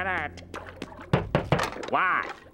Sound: knocking

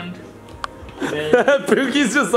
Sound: laughs

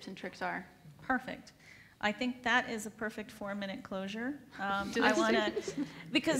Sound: laughs

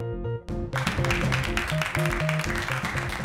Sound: clapping

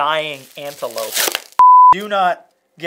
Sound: beeping

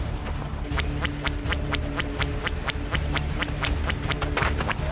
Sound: squidward feet walking

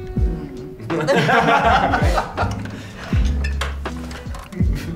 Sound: all laughing

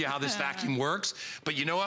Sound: laughter

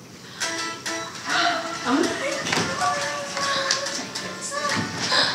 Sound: girls gasping

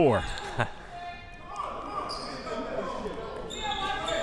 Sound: laughing

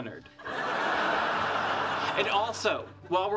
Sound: audience laughing

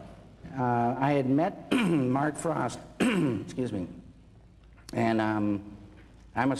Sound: clears throat

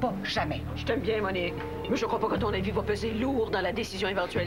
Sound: none

